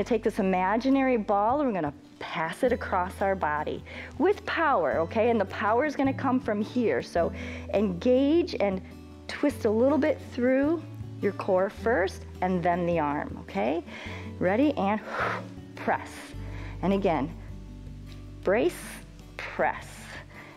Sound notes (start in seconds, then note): 16.4 exhales